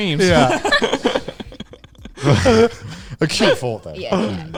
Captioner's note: all laughing